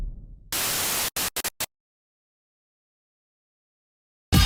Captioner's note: static whizzing; energetic hip-hop music